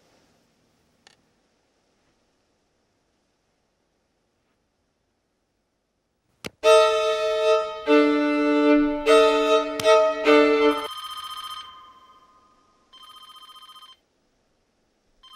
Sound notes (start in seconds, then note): 11.1 phone rings